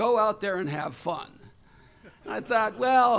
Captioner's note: laughter